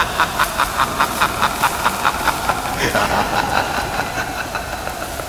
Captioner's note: air whooshing